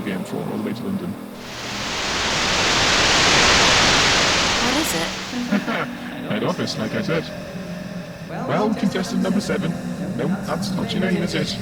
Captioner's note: static; laughs